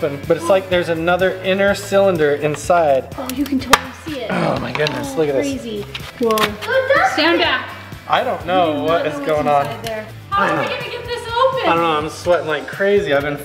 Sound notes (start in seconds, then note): 3.3 metal creaks; 5.6 metal scrapes on metal